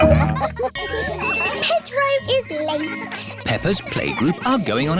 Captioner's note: all laughing; kids giggling